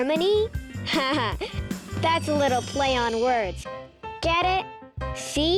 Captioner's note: laughs